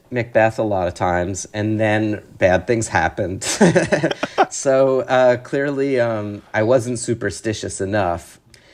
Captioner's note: laughter